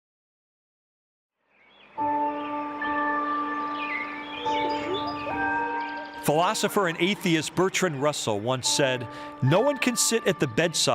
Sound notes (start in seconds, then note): 1.5 birds tweeting; 1.8 gentle music